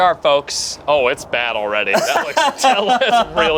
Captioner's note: laughs